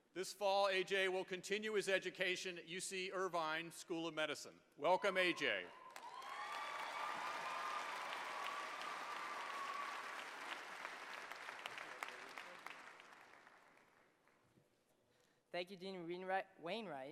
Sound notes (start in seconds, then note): 5.7 applause